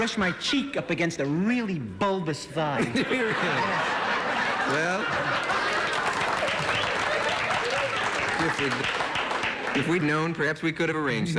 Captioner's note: applause